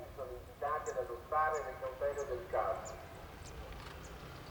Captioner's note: megaphone voice